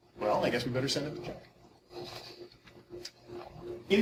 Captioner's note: none